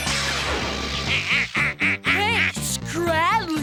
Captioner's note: laughing